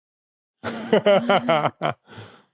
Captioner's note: chuckles awkwardly; guffaws